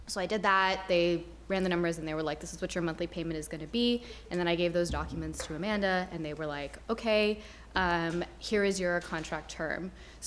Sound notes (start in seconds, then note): none